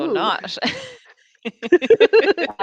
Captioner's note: laughter